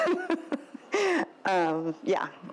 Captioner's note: laughs